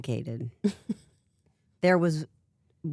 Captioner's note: chuckles